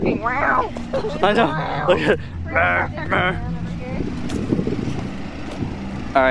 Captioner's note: breathlessly; making monstrous sounding noises